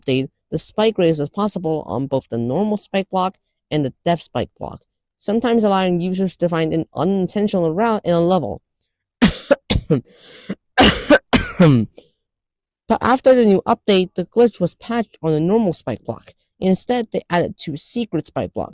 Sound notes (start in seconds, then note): 9.2 cough harder x2; 9.2 cough, cough